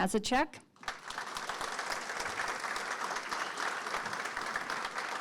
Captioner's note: audience Clapping